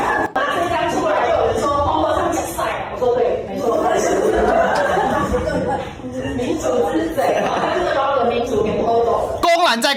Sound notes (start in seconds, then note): 3.7 laughter